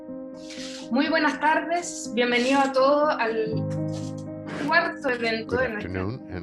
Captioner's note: speaks foreign language